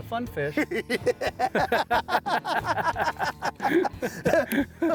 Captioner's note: both laughing